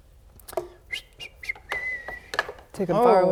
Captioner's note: whistles